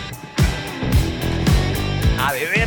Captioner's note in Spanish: Bip del fax